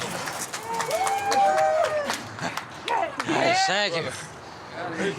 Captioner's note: group applauding